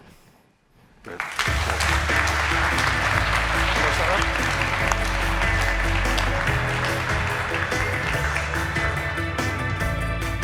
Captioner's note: applause